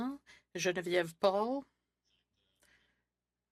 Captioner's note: speaking French